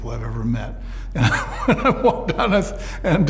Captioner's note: laughs